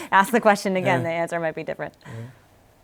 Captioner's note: chuckles